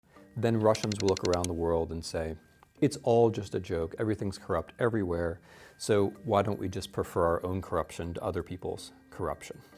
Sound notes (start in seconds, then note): 0.6 multiple clicks